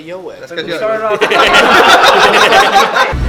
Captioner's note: laughter